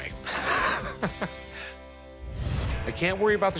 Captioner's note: Rick laughs